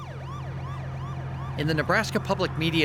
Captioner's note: sirens blaring